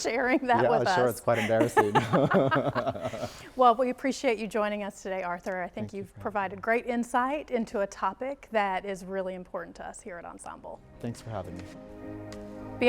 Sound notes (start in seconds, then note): 2.1 both laughing